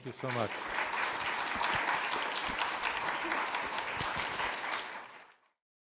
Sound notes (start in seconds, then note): 0.0 audience applauds